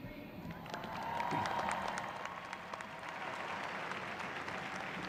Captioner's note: graduates cheering